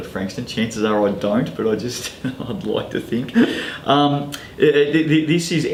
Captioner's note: chuckles